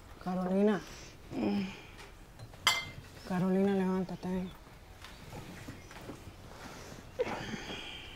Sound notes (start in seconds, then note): 3.1 speaking Spanish